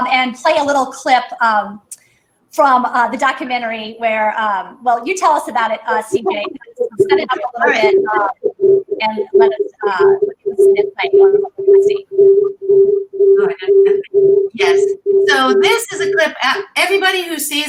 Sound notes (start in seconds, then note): 6.0 microphone noise